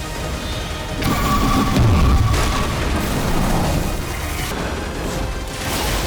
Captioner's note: intense rousing music; booming spell attack; spell firing